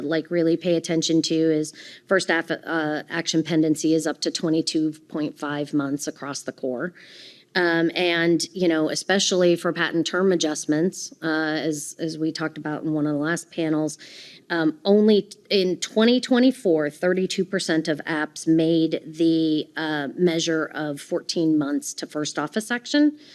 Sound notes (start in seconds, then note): none